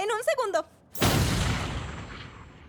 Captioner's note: explosion